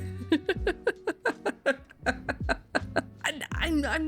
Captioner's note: more laughter